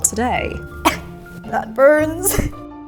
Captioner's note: coughs